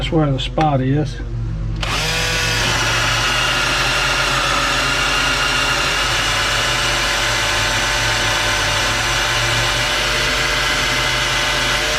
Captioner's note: drilling